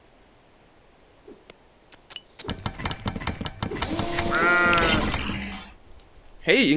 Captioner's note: intense construction sounds